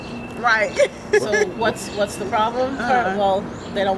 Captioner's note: laughter